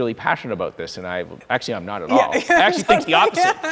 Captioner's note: laughing